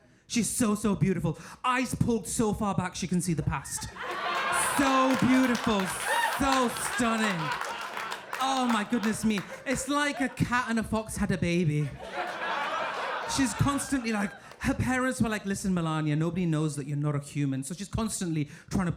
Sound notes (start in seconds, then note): 4.0 audience laughing; 6.0 audience cheering and applauding; 7.7 audience cheering and applauding; 9.0 audience laughing; 11.6 audience laughing